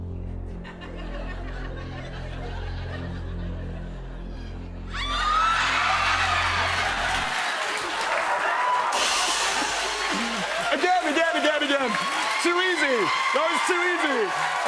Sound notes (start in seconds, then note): 4.9 audience screams, cheers; 7.4 laughter and applause; 8.9 cymbals crash